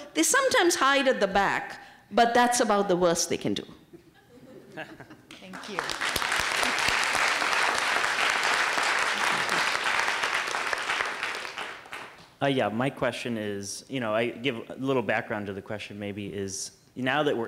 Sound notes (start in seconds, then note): 5.1 laughter/applause